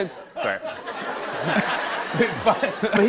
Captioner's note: laughter